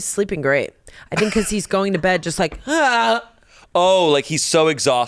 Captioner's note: grunts